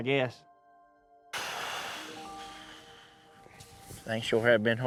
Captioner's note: exhales